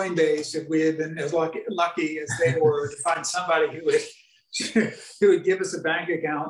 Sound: chuckling

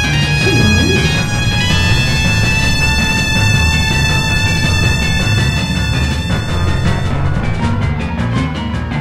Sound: ground violently shaking

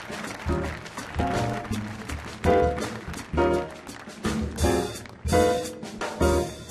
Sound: applause

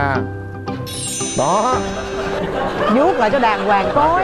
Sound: audience laugh

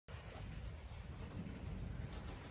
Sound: rain with some hail

